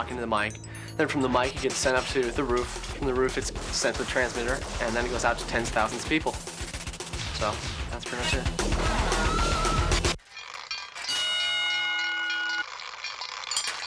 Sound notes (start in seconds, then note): 10.2 clanging